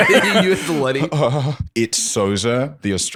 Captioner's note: laughter